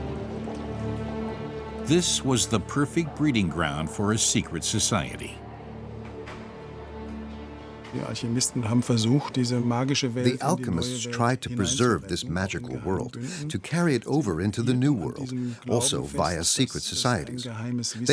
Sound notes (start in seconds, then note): 8.0 speaking in German